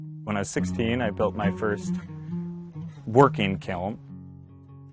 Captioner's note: voiceover